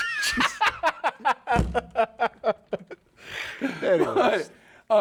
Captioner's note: laughing